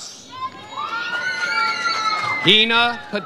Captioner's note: audience cheers